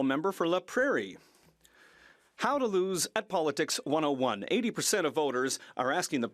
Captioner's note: speaking French